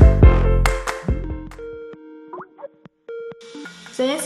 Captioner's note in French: sonnerie Skype